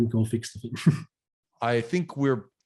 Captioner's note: chuckles